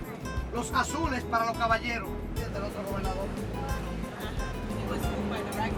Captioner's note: speaking in Spanish; upbeat Spanish music